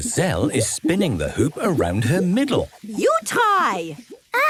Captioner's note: laughs